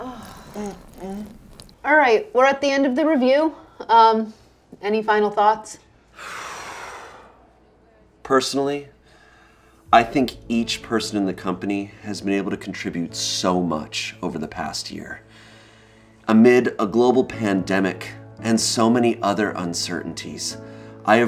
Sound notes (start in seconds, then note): 6.1 exhales